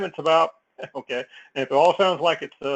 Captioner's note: laugh